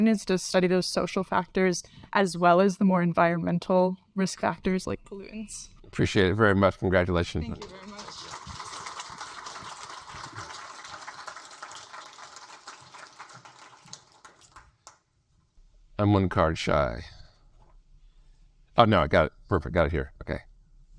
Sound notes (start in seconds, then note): 7.6 audience applaud